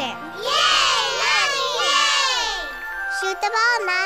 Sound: cheering

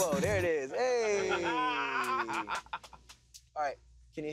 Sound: laughs

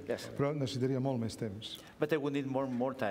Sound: speaking catalan

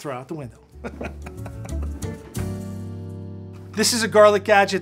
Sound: laughs

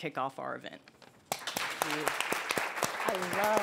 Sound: applause

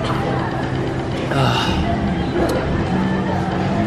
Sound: sigh

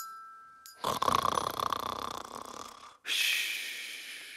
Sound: man snores

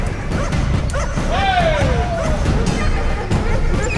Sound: dogs barking; drivers yelling

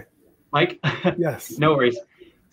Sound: laughs

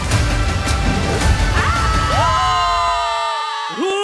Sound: all yell

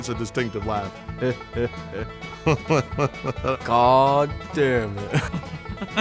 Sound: imitating Jimbo's laugh

